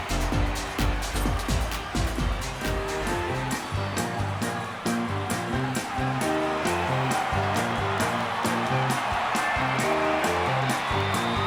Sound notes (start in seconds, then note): 3.4 funky upbeat music; 7.9 crowd cheers